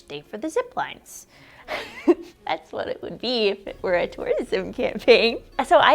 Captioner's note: laughs